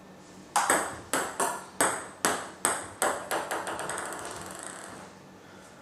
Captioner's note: balls ping pong hitting continues